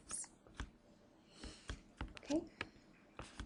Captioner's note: pencil scratching